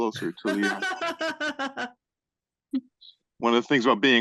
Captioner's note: laughing